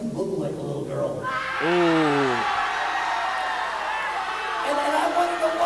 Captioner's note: crowd cheers and laughs